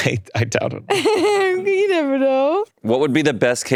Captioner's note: laughing